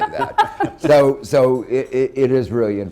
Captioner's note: laughter